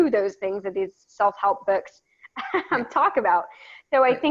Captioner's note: laughs